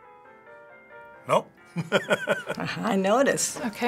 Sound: chuckles

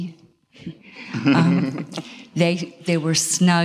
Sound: all laugh

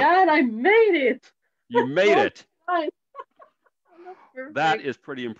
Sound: laughs

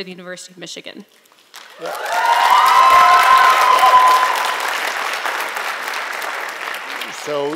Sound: applause

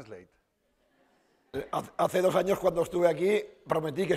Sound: speaking spanish

